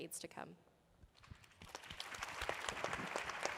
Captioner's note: applause